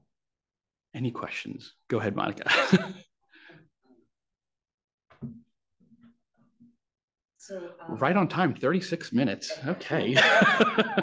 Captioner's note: laughs